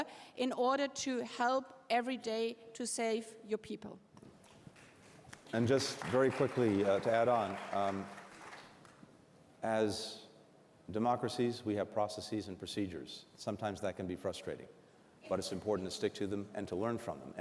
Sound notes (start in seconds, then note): 4.5 applause